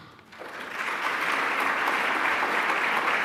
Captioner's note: applause